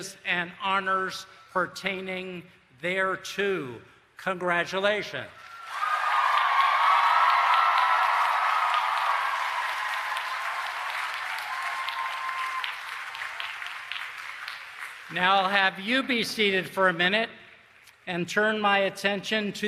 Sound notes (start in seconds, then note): 5.4 applause and Cheering